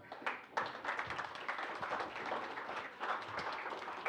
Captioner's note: applause